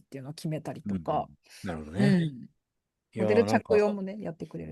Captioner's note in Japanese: 咳払い